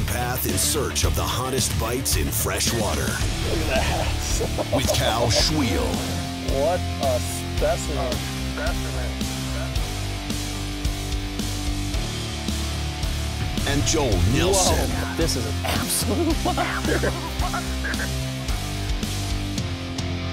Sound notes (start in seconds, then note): 12.9 voiceover